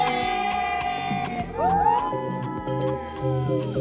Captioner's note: all cheering